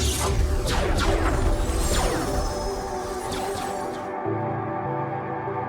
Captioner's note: electricity crackling; cannons blasting; calm ambient music